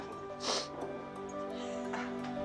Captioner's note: sniffles; gentle uplifting music